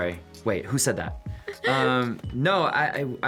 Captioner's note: laughing; chuckles